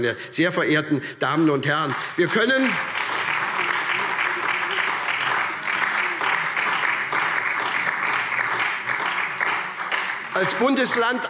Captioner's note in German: Beifall SPD